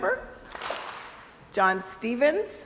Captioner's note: crowd applauds